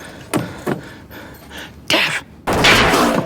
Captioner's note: gunshots